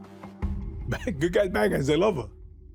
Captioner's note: chuckles